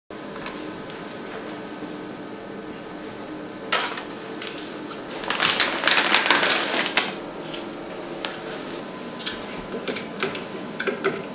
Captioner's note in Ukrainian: звук медичного аппарату